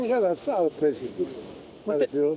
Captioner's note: non-english speech